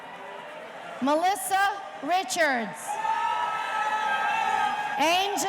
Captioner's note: audience cheering